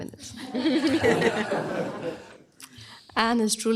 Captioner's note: laughter